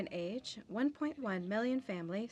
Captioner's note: speaking French